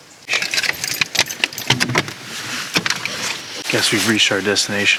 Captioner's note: metal rattles